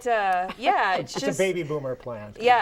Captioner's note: laughing